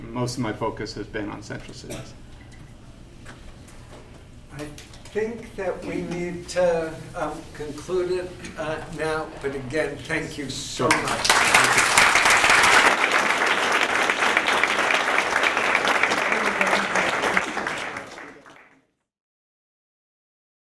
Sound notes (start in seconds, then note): 10.8 applause